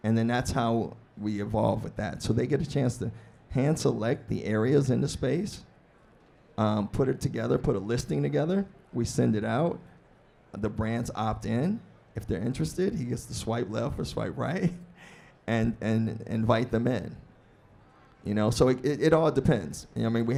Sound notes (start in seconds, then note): 15.0 laughs